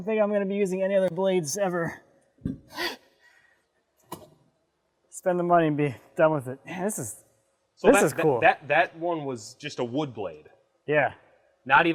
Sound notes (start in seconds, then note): none